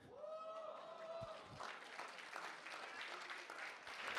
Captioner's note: cheers and applause